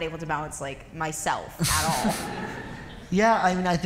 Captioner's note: laughter